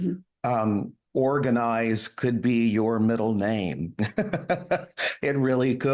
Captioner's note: laughs